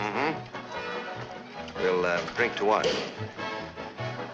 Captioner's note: cork popping